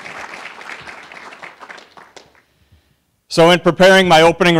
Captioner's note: applause